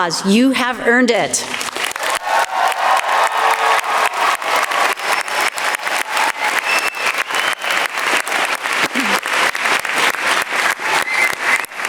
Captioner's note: applause